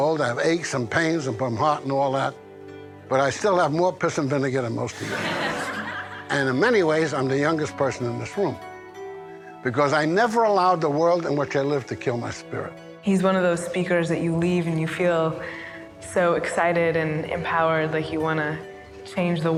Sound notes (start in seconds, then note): 4.9 students laughing